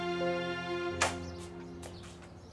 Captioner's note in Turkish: Kapı açılır